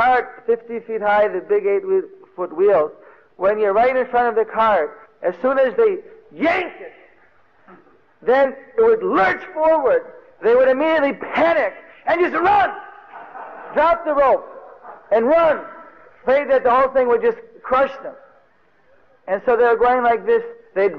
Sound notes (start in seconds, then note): 6.0 loudly speaking; 12.8 devotees laugh